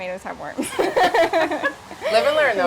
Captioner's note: laughing